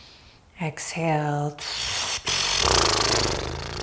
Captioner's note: inhales; blows raspberry